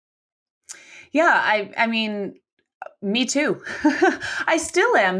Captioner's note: laughs